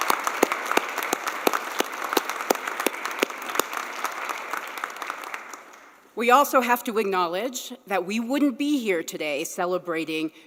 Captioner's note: applause